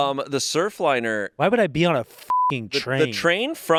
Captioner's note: beep